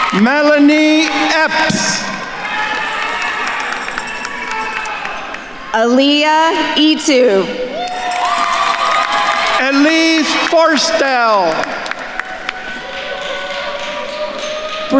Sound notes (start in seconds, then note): 2.5 attendees cheering and applauding; 7.9 attendees cheering and applauding; 12.2 attendees cheering and applauding